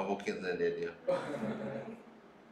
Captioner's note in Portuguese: risos